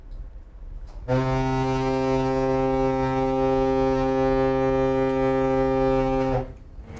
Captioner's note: horn